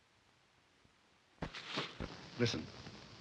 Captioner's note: footsteps